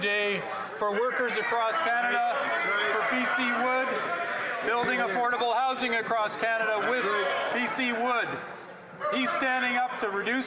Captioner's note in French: voix de l'interprète